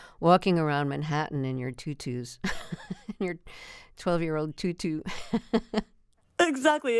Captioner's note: laughter